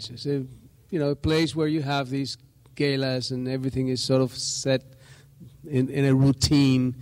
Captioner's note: none